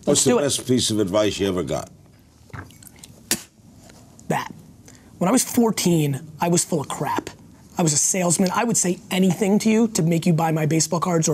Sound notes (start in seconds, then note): 2.6 spits